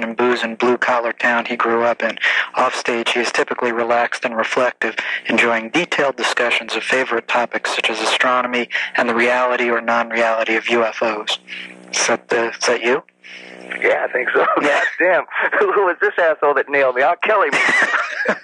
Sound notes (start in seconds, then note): 14.1 laughs; 17.4 both laugh